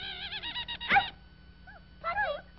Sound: bark

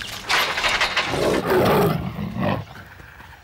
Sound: roars

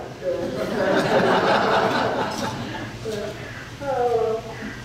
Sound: audience laughing

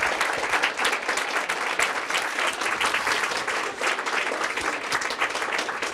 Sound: applause

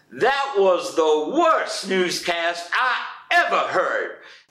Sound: none

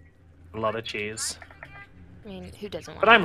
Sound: on phone

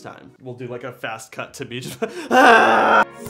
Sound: screams

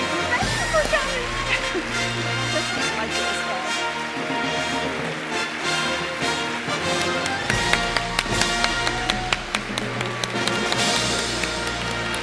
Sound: applause and fanfare music

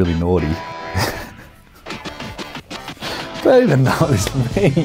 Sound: laughs

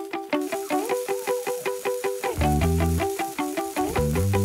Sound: upbeat music; steak sizzling

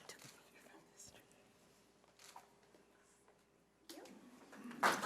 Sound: panel members whispering

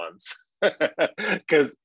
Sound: laughing

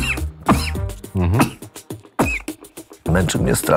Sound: coughing

